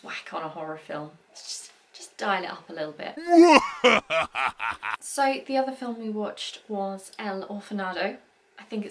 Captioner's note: mwahahaha sound effect